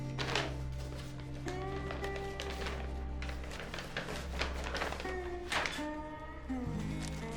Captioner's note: envelope rustling